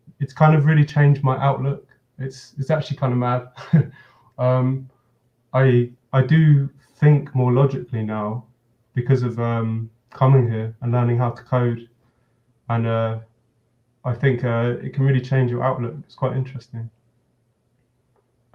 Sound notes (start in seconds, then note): 3.4 chuckles